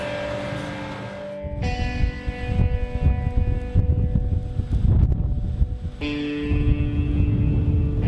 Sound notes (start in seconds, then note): 0.0 compelling music; 0.0 wind blowing